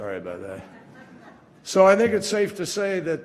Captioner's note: laughter